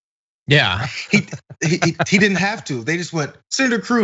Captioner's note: laugh